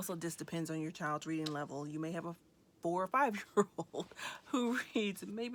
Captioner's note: chuckles